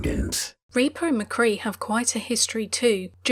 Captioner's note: voiceover